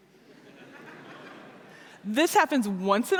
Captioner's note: laughter